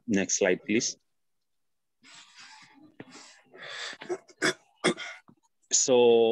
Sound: silence

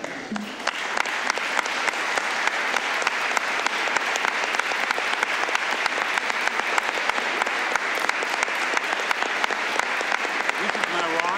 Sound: applause

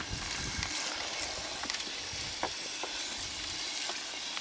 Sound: water runs

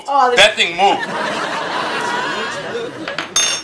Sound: audience laughs

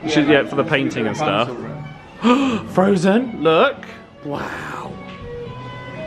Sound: gasps

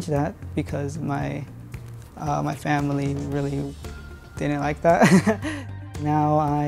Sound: laughs

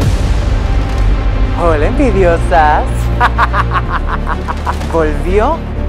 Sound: evil laugh

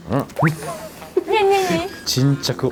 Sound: laugh

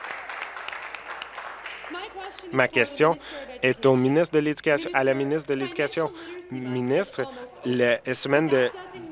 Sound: applause

